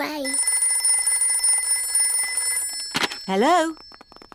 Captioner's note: phone rings